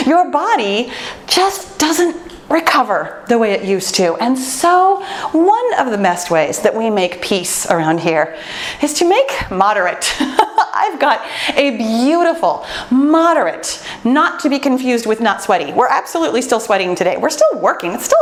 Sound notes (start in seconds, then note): 10.3 laughs